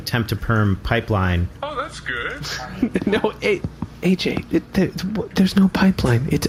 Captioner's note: whispering